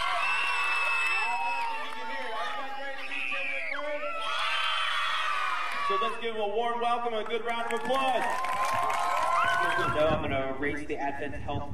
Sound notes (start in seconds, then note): 1.9 audience cheering